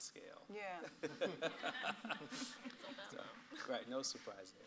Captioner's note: laughs